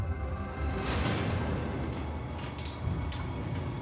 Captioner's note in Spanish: ruido al subir la puerta